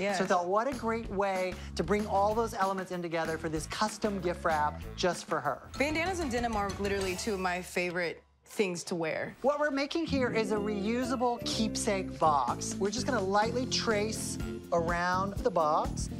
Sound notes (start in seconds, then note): none